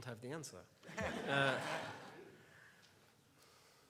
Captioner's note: laughs